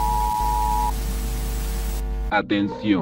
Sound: interference

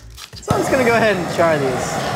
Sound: flames hissing

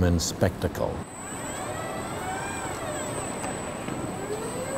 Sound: robots whirring

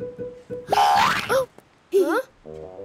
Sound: giggling; gasping

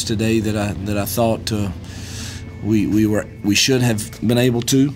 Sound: voiceover

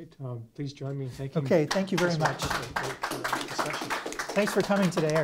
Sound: audience clapping

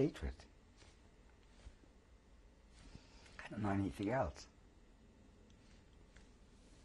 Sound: pauses for 3 seconds

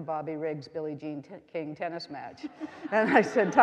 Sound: audience laughing

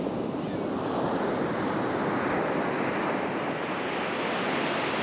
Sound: the sounds of multiple Gulls

